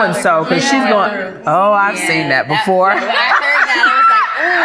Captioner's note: laughs